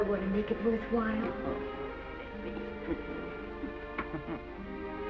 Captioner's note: chuckles